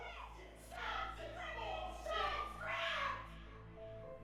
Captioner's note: man, woman arguing, screaming